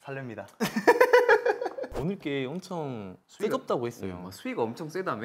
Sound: laughing

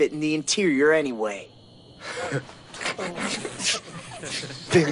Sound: muffled laughter

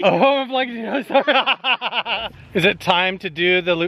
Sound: laughs

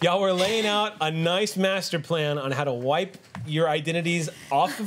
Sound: none

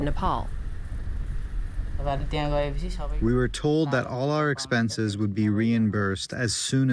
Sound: through translator

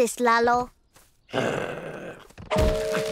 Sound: growling

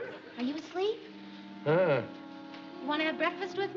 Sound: groans

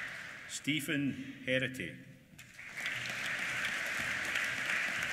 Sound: applause

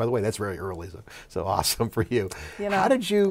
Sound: laughs

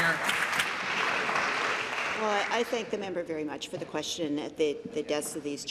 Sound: applause

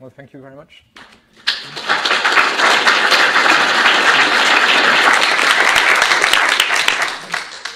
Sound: audience claps

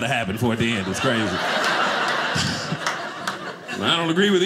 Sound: audience laughing

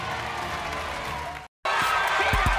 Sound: applause

